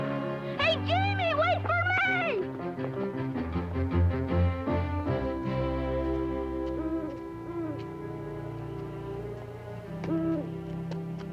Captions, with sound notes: Hey, Jamie! Wait for me! [owl hooting]